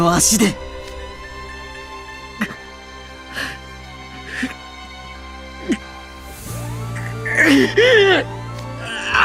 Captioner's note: cries